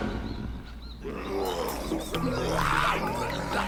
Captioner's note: grunts